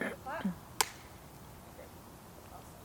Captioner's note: slate claps